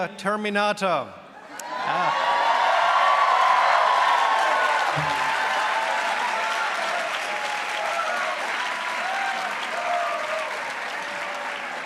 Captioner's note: cheers